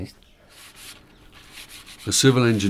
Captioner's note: sandpaper scratching